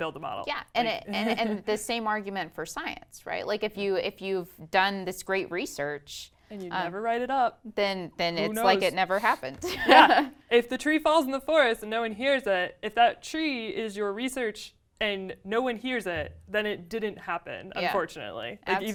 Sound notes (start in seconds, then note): 9.7 laugh